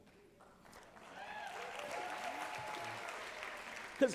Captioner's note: applause